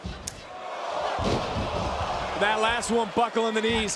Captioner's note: crowd cheers